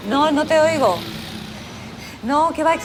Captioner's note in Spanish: ruido de la calle